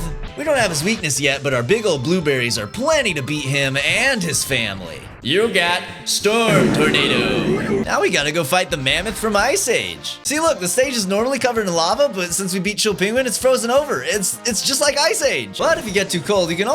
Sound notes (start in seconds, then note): 6.4 fart reverb